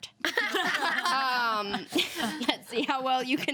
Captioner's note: women laugh